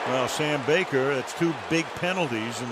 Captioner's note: booing